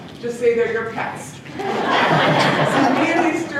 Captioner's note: laughter